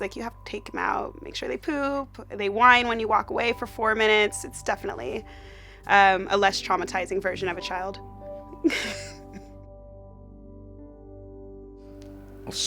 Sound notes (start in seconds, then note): 8.6 laughs; 9.9 soft warm music